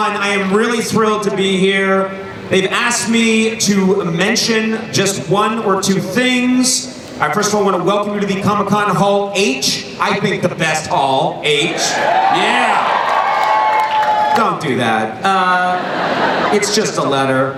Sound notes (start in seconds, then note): 11.6 crowd cheering